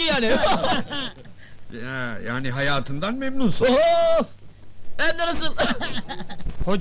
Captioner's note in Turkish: gülerler